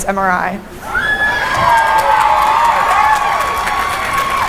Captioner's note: cheering and applause